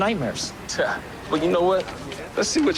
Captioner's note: scoffs